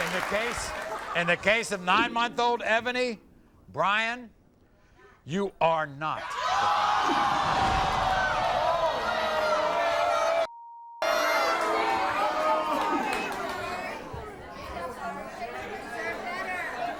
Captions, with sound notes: In the case of nine month old Ebony, Brian, you are not the father. (audience groans) (beep) (audience boos) (audience murmurs)